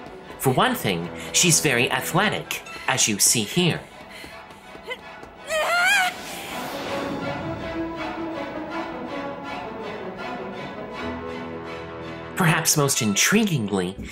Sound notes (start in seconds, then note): 5.1 rousing music plays; 5.5 Hitomi grunts